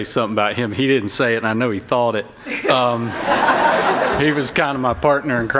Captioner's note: laughter